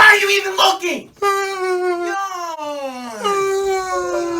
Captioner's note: and now the yawn continues